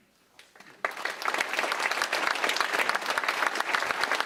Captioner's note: applause